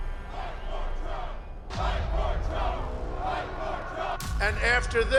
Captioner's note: crowd chanting